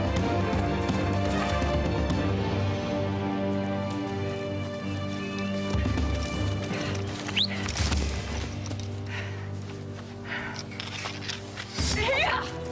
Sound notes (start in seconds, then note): 7.2 whistling; 10.4 grunting